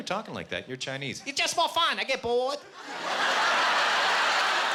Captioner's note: Chinese accent